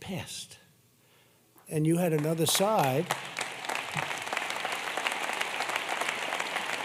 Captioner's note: applause